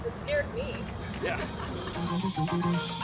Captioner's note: laughs